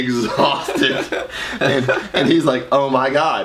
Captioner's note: laughs loudly